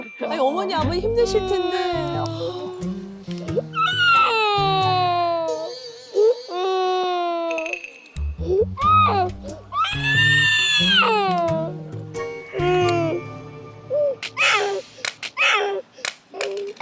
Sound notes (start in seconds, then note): 7.4 flat on the floor, wailing